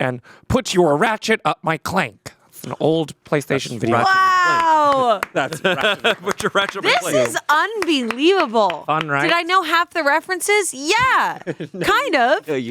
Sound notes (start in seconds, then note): 5.3 laughs